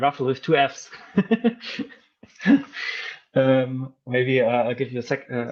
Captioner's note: laughing